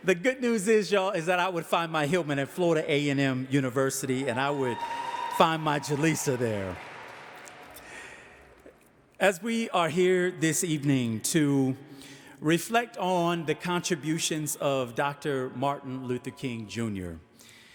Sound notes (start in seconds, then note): 4.1 audience cheering